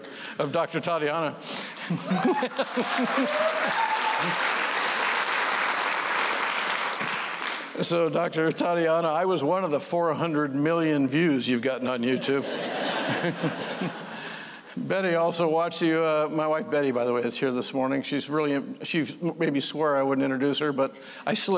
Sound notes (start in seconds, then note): 2.1 applause; 12.1 laughter